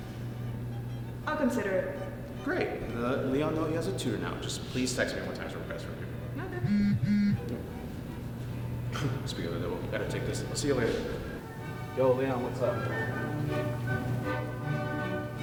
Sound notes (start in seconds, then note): 6.6 cellphone Vibrates; 8.9 chuckle